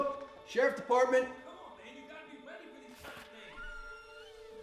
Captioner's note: shouting in distance; door opening; shouting continues